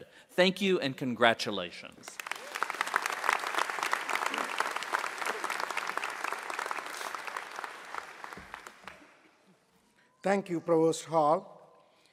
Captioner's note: applause